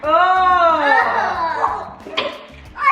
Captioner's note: gags; groans